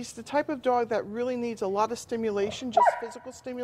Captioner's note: dog barking